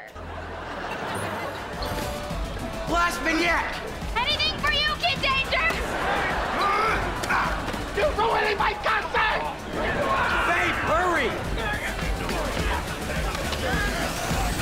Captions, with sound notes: [laughing] Blast Minyak! Anything for you, Kid Danger! [groaning] You're ruining my concert! Babe, hurry!